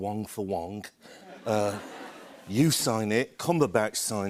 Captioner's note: laughter